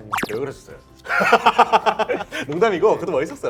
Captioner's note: laughing